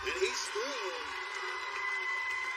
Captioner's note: cheers and applause